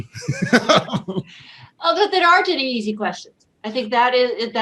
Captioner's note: laughs